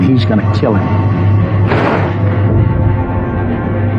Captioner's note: gunshshotot